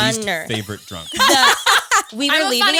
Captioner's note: all laughing